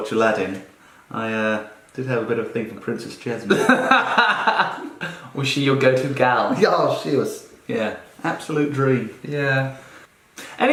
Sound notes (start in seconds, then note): 3.5 laughing